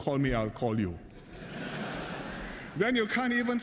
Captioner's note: laughter